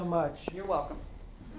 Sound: Doctor walking

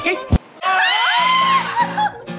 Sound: screams and laughs in celebration

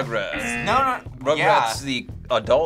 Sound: buzzer

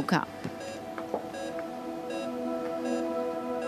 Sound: beeping

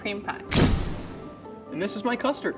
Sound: flash bulb popping

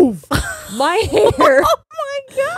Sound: laughs

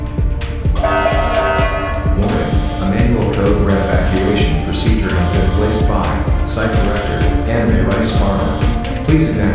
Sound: announcement Chime

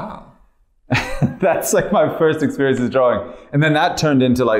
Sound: laughter

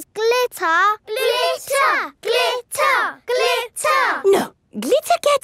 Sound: chanting

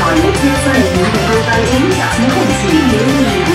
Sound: Cantonese; Mandarin

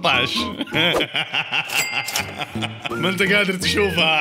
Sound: laughter

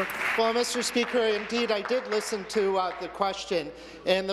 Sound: applause

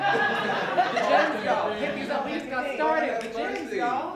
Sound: laughter

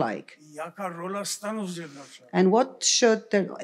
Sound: foreign language

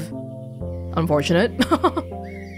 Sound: chuckles

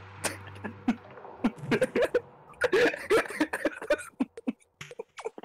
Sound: hysterical laughter

